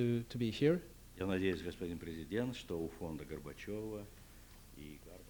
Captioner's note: non-english speech